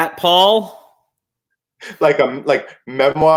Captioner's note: chuckle